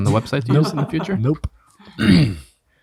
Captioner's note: innocent laughing